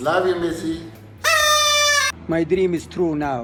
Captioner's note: horn blowing